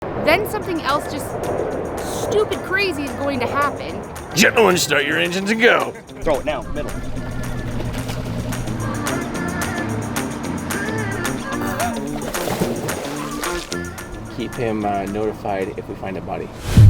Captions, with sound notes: - Then something else just stupid crazy is going to happen. - Gentlemen start your engines and go. - Throw it now in the middle. (engine revving) (upbeat music) (water splashing) - Keep him notified if we find a body.